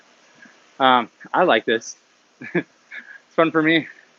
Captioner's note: chuckles